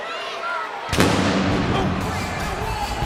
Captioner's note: fire blasting